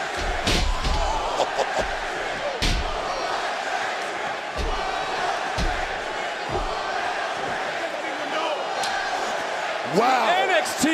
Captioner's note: crowd chants